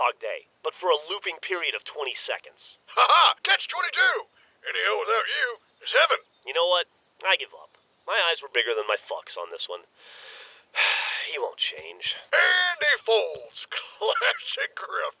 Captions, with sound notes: but for a looping period of 20 seconds. Ha! Ha! Catch-22! Any hell without you is heaven. You know what? I give up. My eyes were bigger than my fucks on this one. [sigh] He won't change. AND he folds! Classic Grif.